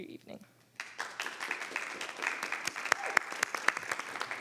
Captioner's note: members clapping